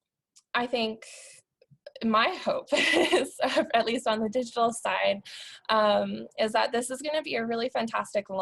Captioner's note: laughter